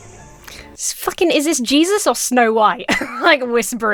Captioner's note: chuckles